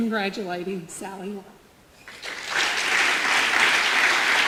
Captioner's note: audience applause